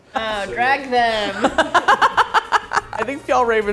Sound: laughs

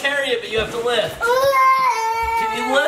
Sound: yelling and groaning

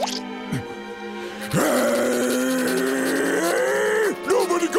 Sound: growling

